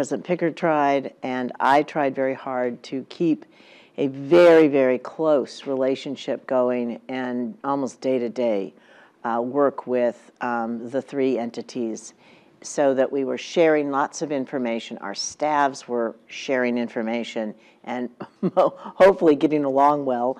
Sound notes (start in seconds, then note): 17.3 laugh